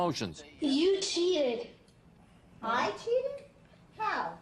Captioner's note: voiceover